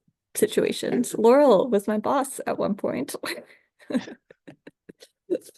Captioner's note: laughs